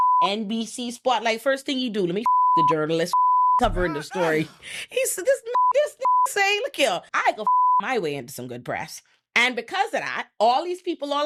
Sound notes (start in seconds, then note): 2.2 beep; 6.0 beep; 7.4 beep